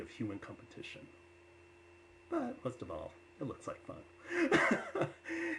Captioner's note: laughs